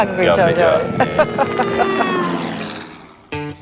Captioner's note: laughing